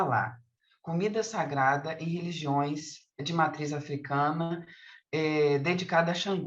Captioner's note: continues speaking in Portuguese